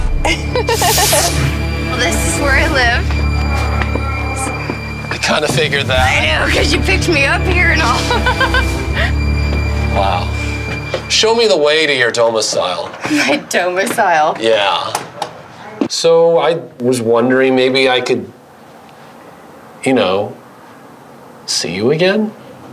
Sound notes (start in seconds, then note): 0.0 thudding; 0.0 whistling; 0.3 laughing; 3.3 ominous music; 7.8 laughs